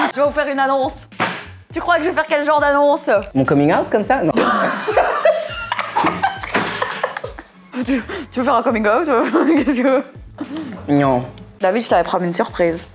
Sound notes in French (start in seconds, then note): 4.3 Laugh